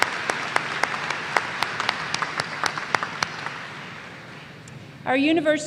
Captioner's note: applause